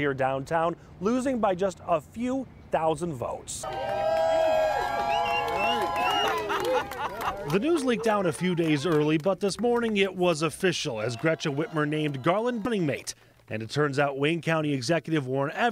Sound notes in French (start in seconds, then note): 9.2 cheers and applause; 10.9 cheers and applause